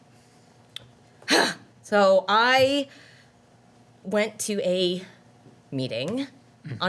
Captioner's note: dramatic sighing